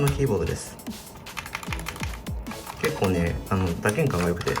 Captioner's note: keying sound